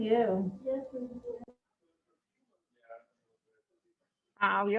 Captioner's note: faintly speaking